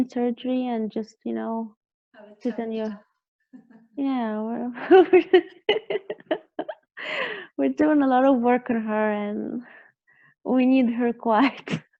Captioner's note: both laughing; laughing